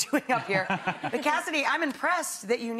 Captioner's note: chuckling; Ryan and audience members chuckling